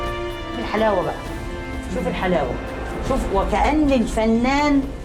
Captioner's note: speaking foreign language